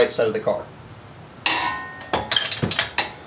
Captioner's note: loud clunk